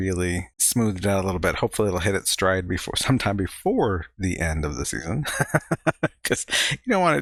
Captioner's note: chuckling